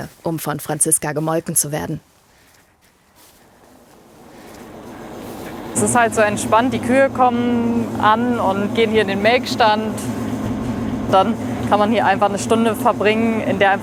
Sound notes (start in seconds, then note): none